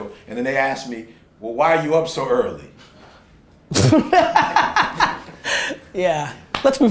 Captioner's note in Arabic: ضحك